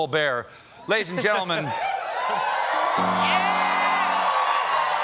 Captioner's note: cheers and applause